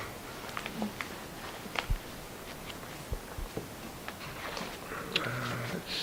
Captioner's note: silence except for album pages flipping